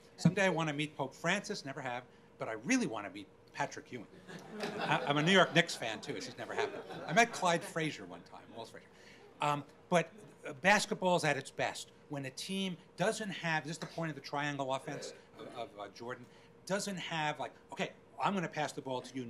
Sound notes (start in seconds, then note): 4.2 crowd laughing